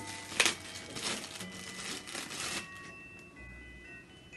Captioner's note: plastic rustling; rip